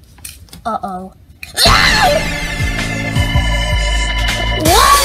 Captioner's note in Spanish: ambos gritan